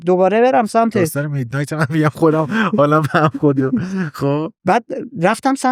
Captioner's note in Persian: خنده